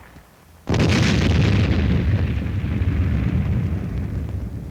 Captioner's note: big explosion